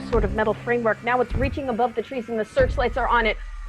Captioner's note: unearthly shrieks; giant footsteps